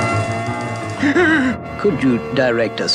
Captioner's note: Adam West Gasps